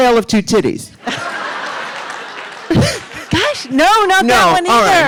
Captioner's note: audience laughing